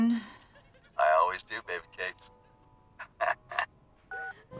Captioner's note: chuckles